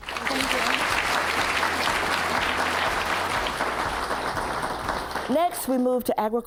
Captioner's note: applause